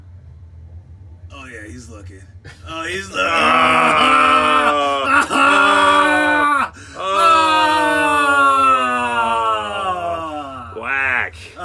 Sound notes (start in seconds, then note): 5.1 men yelling and groaning